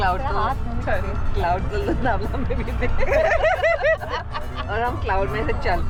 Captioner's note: laughs